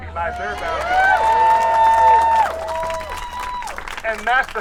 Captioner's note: audience cheering